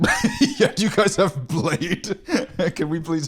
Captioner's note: laughing